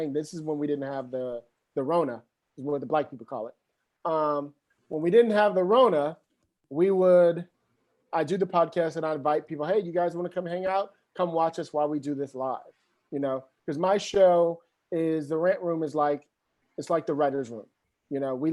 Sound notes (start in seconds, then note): none